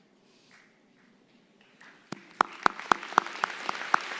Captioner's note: applause